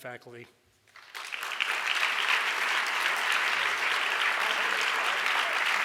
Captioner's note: audience applauds